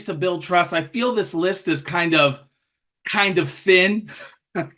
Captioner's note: laughter